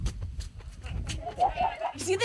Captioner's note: laughter